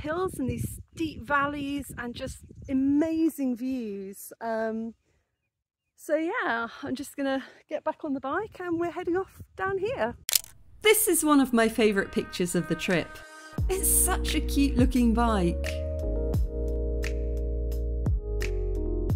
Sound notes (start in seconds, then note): 10.3 camera click; 16.5 dreamy music